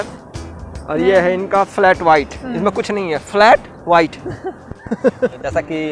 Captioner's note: both laughs